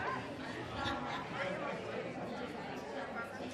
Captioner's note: people laugh; people chatter